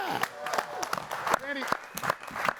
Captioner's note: audience applauding